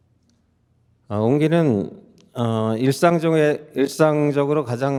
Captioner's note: speaking in Korean